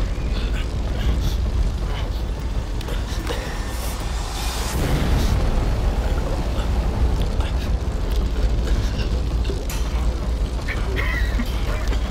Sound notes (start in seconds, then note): 8.0 choking